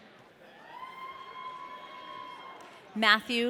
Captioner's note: audience cheering